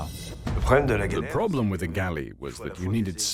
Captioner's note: voiceover